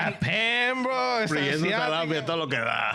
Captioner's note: speaking In Foreign Language